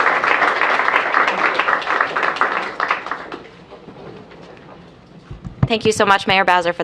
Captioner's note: applause